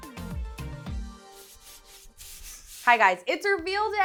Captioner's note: light music; screen swishing